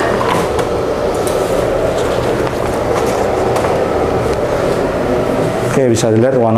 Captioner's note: press machine sound; teflon paper sound